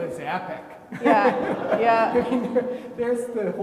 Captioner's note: everybody laughing